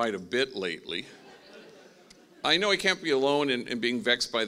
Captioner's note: laughing